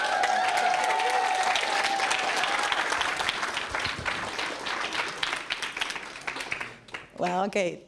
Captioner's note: applause